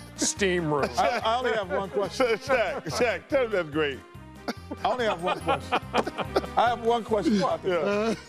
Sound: laughter

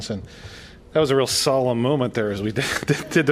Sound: laughter

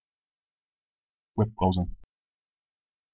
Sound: fast Pronunciation

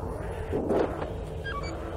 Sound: airlock closes

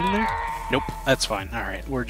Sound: screams of the damned

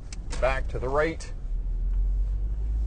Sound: car engine roaring

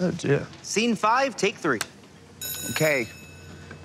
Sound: bell ringing

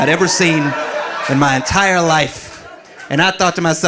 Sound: audience laughing

